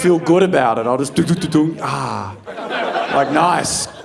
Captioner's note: audience laughing